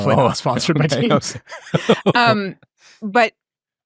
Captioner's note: laughs